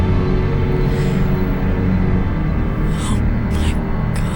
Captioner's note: gasping